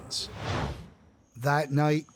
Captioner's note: air whooshing